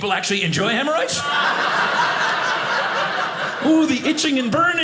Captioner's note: audience laughing